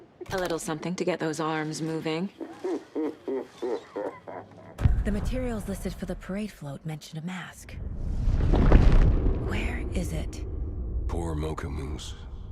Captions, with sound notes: A little something to get those arms moving. [Laughing] The materials listed for the parade float mention a mask. [Thunder] Where is it? Poor Mokomu's.